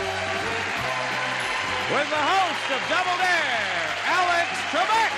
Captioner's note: cheering and applause